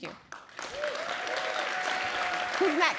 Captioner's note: applause